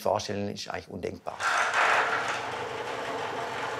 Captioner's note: clacking